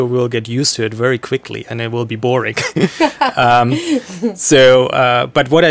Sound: laughing

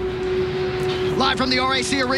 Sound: gentle music; flag flapping in the wind

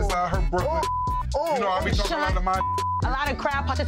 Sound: beep

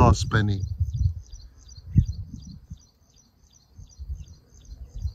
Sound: birds singing

